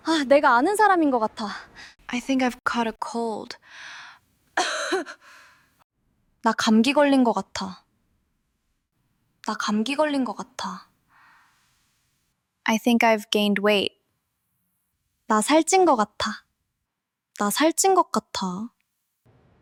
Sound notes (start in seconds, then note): 4.6 coughing sound